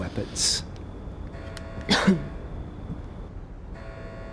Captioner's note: alarm blaring